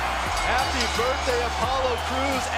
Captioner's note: bell ringing